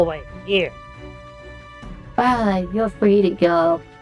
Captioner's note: Port Police laugh and release MandaOtterian